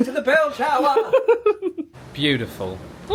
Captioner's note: laughing